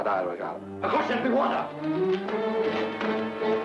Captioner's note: speaks foreign language; man speaks foreign language; dramatic music